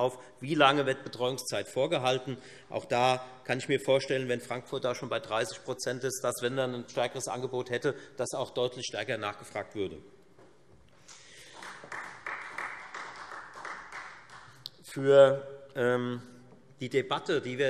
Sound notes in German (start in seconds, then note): 11.1 Beifall Freie Demokraten